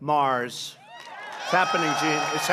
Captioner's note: applause